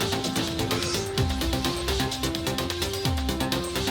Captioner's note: upbeat digital music; child gasps